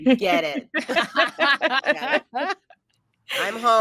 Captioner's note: cast laughing